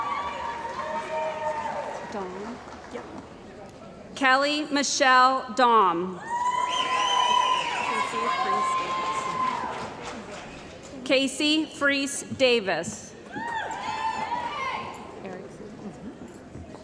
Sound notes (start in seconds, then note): 0.0 cheering & Applause; 6.2 cheering & Applause; 13.3 cheering & Applause